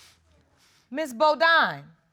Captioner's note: sniffling